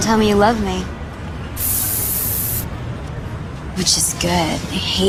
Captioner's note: spray hissing